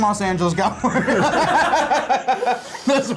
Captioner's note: laughing